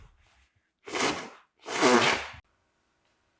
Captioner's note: wiping nose